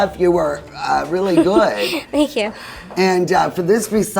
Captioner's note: chuckling